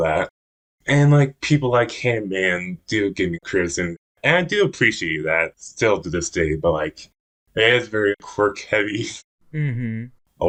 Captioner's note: laughs